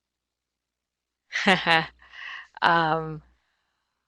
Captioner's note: chuckles